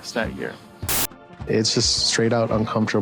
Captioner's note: static hissing